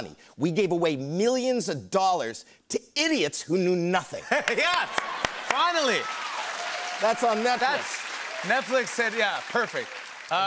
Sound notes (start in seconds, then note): 4.5 cheers and applause